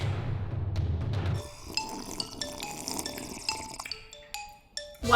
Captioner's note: slurping